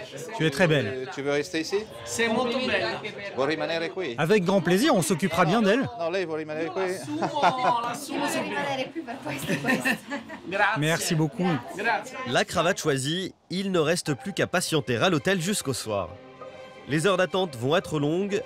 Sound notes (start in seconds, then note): 2.7 in Italian; 5.9 speaks in Italian